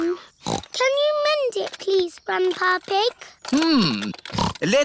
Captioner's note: snorts